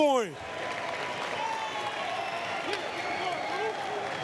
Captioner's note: applause, cheers